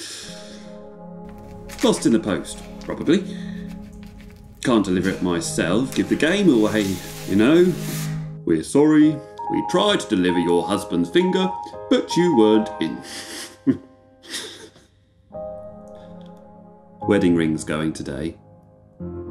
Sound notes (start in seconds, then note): 14.2 chuckles